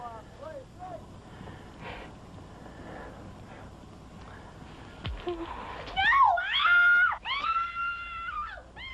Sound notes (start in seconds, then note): 5.9 screams